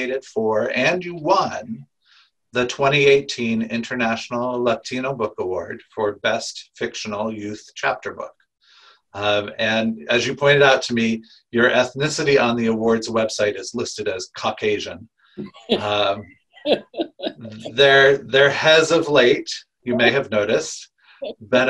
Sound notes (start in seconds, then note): 16.6 laughing